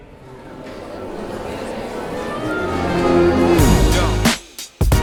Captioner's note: people chatting indistinctly; gentle music